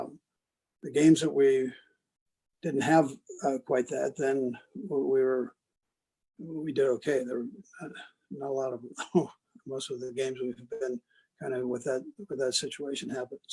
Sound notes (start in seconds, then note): 8.3 laugh